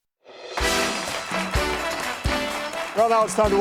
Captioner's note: audience applauding